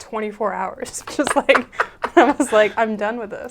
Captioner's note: laughs